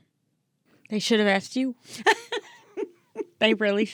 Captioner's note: laughing